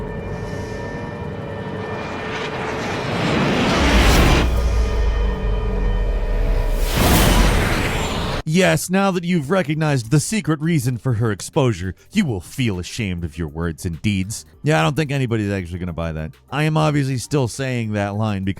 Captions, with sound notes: (jet roars) "Yes. Now that you've recognized the secret reason for her exposure, you will feel ashamed of your words and deeds." Yeah, I don't think anybody's actually gonna buy that. I am obviously still saying that line